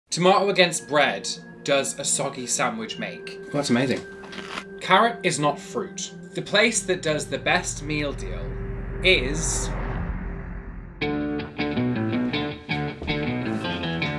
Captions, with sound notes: - Tomato against bread does a soggy sandwich make. Oh, that's amazing. (lettuce crunches) Carrot is not fruit. The place that does the best meal deal is... (dramatic air whoosh) (upbeat rock music)